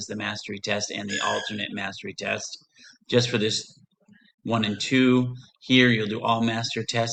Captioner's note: screeching